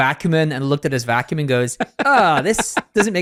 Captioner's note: laughing